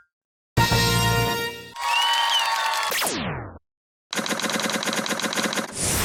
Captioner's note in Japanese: 拍手